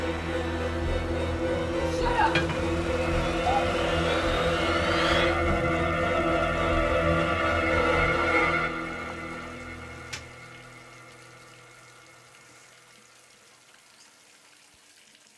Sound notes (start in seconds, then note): 0.1 suspenseful music; 3.2 suspenseful music; 8.9 water splashing